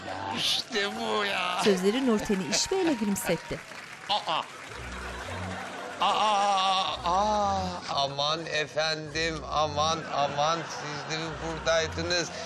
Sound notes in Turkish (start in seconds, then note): 1.9 Gülme sesi; 2.2 Fonda çığlık ve alkış sesi